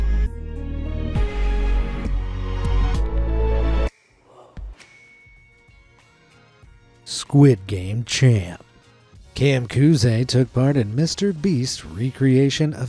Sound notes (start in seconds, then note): 0.2 light suspenseful music; 4.7 bell dings